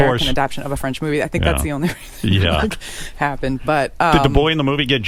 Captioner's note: laughs